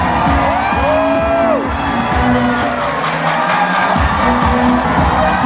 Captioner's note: vloggers cheers; crowd cheers; upbeat music